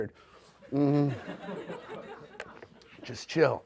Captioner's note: audience laughs